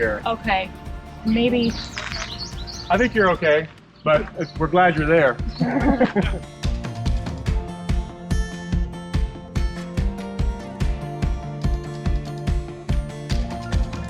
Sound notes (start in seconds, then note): 5.5 laughing; 6.8 upbeat music